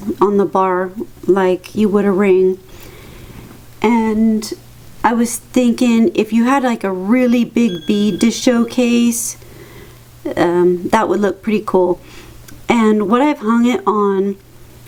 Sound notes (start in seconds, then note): 7.6 ping